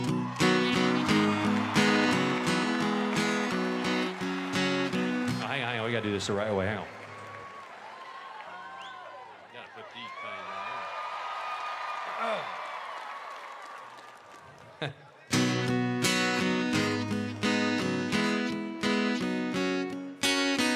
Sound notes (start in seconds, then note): 5.2 applause